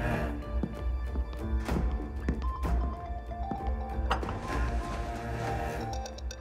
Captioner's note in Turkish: Telefon çalıyor